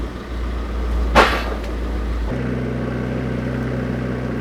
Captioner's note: log thuds